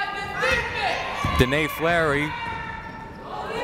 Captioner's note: yelling